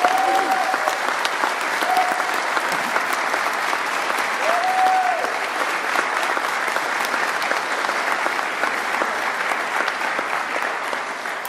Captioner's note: applause